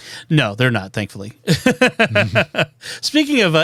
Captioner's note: laughter